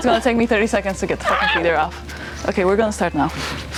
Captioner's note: screams